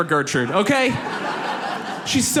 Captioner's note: audience laughs